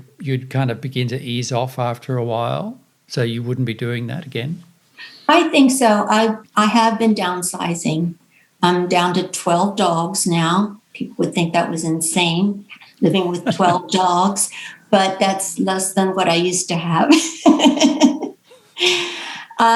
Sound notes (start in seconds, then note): 12.8 laughing; 17.0 laughs